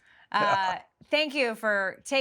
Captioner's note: laughing